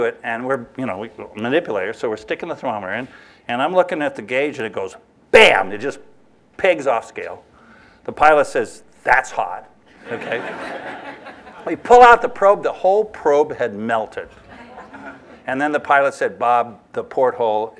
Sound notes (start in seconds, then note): 9.9 laughter